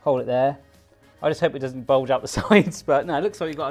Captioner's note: laughs